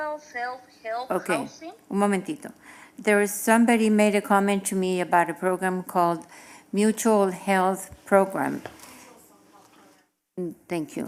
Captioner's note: speaking non-english